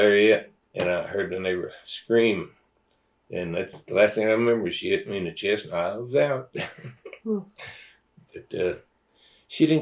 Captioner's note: laughs